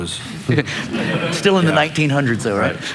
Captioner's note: laughter